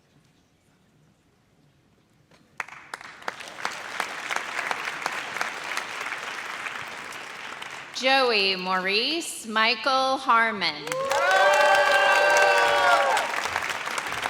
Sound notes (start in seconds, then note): 2.5 audience applauds; 10.8 audience cheers